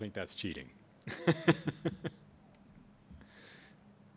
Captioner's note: laughs